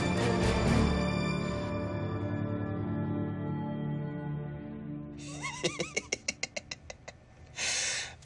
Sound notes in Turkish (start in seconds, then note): 5.2 Gülüyor